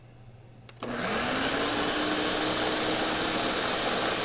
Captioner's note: blender whirring